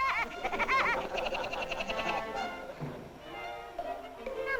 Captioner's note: Woody the Woodpecker laugh; men laugh softly